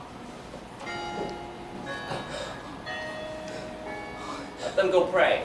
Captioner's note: chapel bells ring the hour